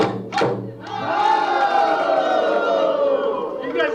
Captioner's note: shouting